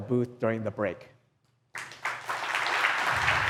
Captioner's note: applause